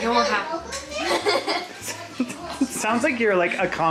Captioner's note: laughs